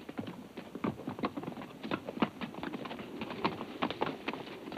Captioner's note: hooves clomp